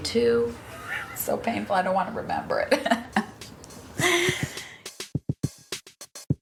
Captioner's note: laughs; upbeat music